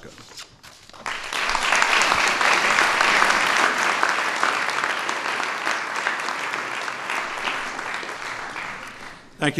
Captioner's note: applause